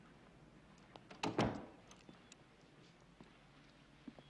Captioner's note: door bangs